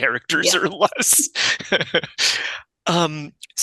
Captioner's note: laughter